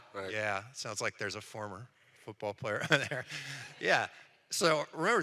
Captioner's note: laughs